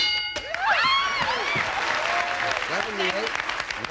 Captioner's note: audience applauding